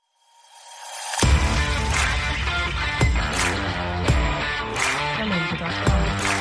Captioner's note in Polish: Aplauz